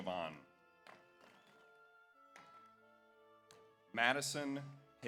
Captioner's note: audience applauds